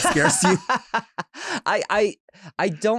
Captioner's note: laughs